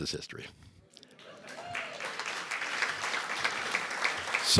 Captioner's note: applause